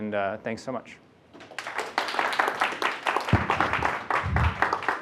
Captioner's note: applause